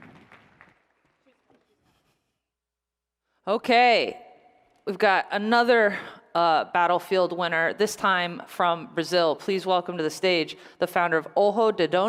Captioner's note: applause